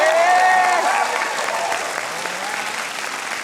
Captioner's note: cheering and applause